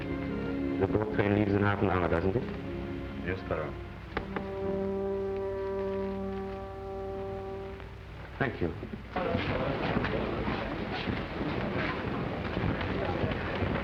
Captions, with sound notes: - The boat train leaves in half an hour, doesn't it? - Yes, Baron. - Thank you. (people murmuring)